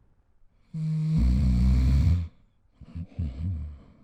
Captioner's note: snoring sound